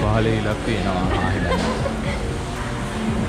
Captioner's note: laughing